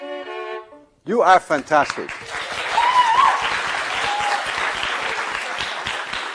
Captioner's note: applause